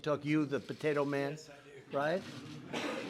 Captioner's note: laughs